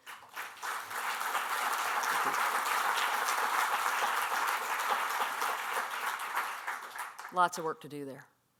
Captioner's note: applause